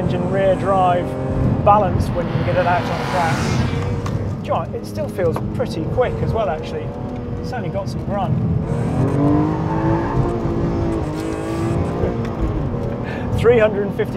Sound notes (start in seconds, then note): 8.6 tires squealing; 8.9 car engine rasping